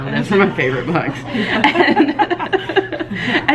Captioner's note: both laughing